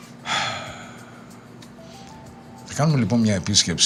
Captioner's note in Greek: αναστενάζει